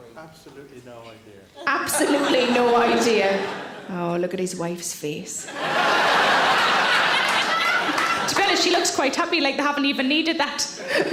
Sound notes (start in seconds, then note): 1.6 audience laughing; 5.4 audience laughing; 10.7 laughing